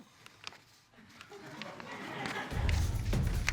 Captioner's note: audience laughing